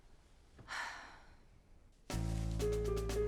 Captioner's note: Kate sighs; playful music